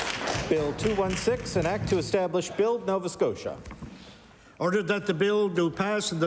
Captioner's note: applause